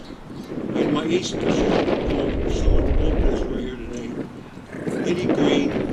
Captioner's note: wind in microphone drowning out speaker